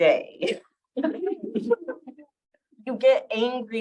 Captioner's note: chuckling